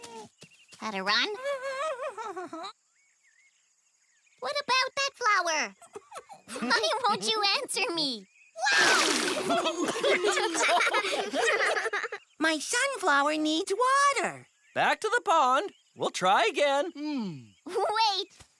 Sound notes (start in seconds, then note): 8.6 spitting sounds; 8.7 laughing